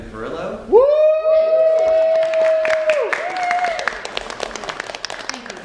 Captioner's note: audience cheers and claps